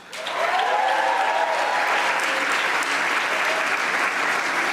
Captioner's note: audience applauding